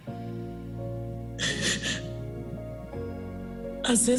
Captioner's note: sobs